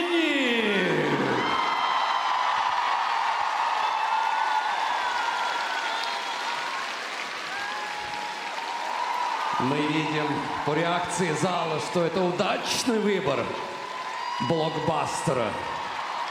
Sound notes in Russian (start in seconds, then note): 4.6 ликование